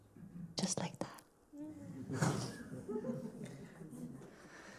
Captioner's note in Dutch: lacht